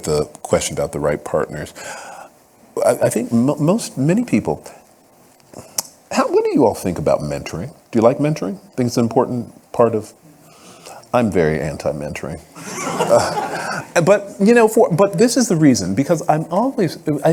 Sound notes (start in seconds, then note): 12.6 audience laughing